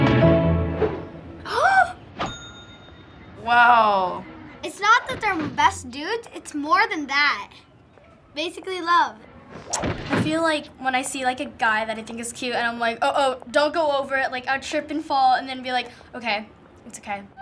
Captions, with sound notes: - (gasps) - Wow. - It's not that they're best dudes. It's more than that. Basically, love. - I feel like when I see a guy that I think is cute and I'm like, "Uh-oh, don't go over it." I'd trip and fall and then be like, "Okay, it's okay."